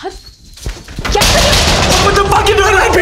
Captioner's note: Bangs